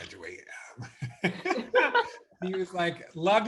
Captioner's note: laughing